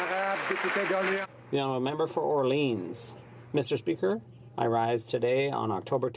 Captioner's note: some Applause